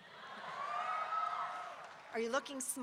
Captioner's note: audience cheering